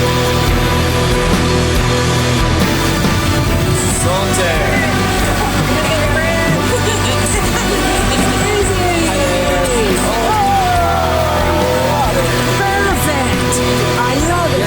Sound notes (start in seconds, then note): 4.7 happy sounds and laughter